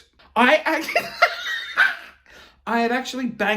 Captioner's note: laughing